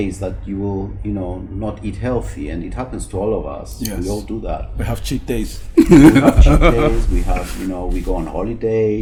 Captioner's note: laugh